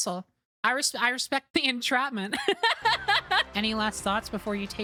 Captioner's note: laughter